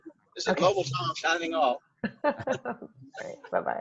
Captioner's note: laughs